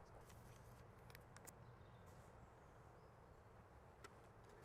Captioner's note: paper crackling